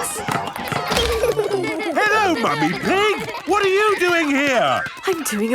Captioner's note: laughter